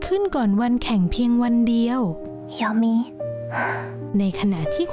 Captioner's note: sigh